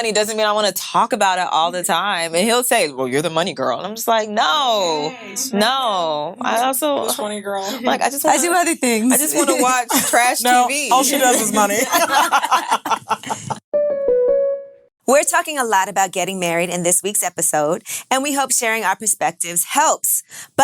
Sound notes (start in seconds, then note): 10.9 women laughing; 13.7 cheery music